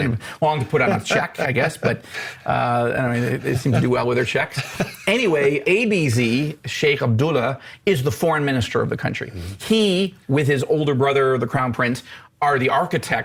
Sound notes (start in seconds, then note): 0.6 laughs; 4.4 laughs